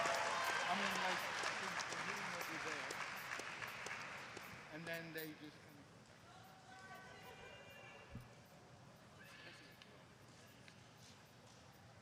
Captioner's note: applause